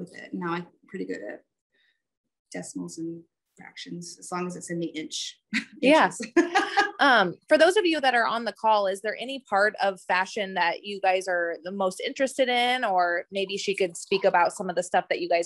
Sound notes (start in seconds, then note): 6.3 laughs